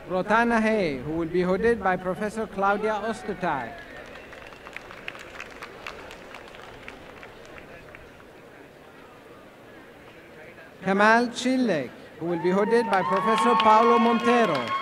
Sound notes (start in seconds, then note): 5.8 applause